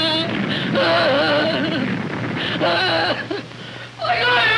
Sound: crying out in pain

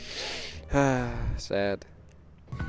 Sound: sigh

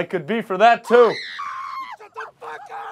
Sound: woman screaming; laughs

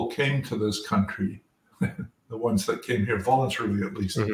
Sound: laugh

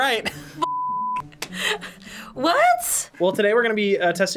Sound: laughs

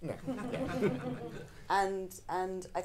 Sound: audience laughing

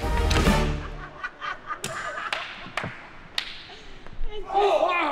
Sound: laughing

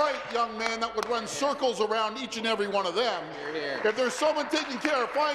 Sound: applause

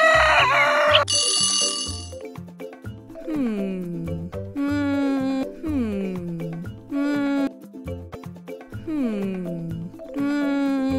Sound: sound effects

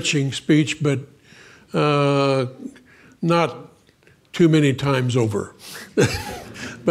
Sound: laughs

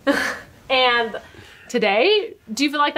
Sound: laughs

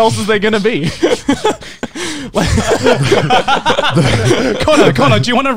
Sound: everyone laughs

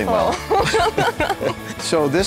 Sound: laugh

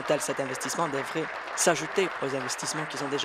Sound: applause

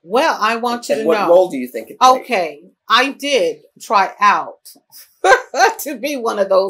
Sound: laughs

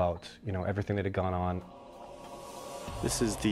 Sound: voiceover

